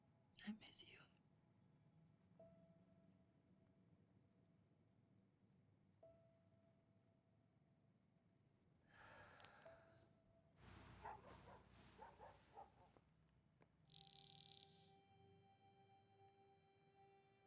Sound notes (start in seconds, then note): 8.9 person sighing; 10.8 dog barking; 13.9 light whirring